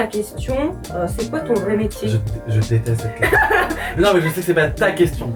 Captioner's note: haha